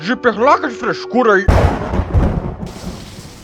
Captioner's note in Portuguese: Estrondo de raio; Som de chuva caindo